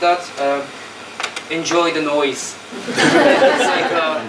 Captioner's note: laughter